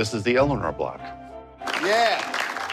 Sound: applause

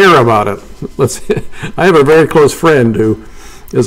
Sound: laughing

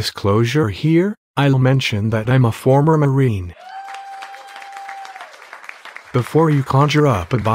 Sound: applause

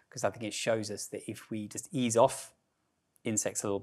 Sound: none

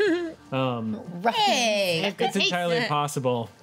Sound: chuckles

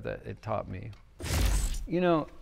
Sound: static crackling

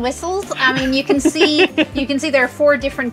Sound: giggles

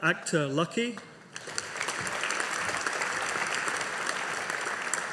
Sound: audience applauding

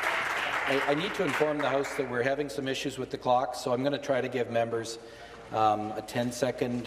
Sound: some Applause

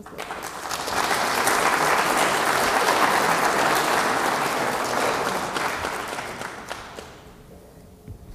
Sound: applause

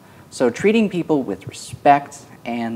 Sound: none

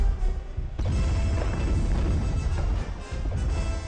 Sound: explosion

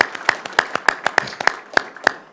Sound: applause

